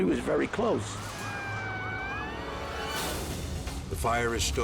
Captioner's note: sirens wailing